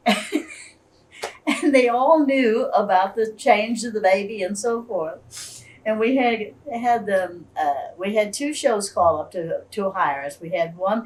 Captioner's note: laughs